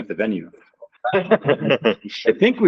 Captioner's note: scattered laughs